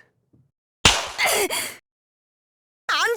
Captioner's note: seething